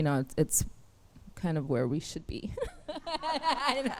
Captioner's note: laughs